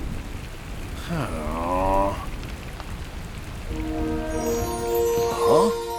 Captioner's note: sad grunting